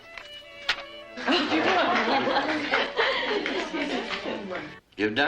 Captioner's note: exclamations of amazement